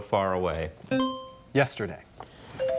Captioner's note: bell dinging